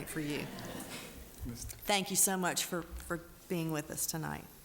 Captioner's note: laughing